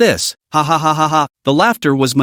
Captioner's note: hahahahaha